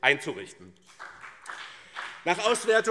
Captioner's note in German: Beifall BÜNDNIS 90/DIE GRÜNEN und CDU